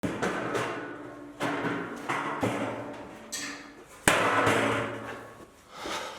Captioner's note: chair banging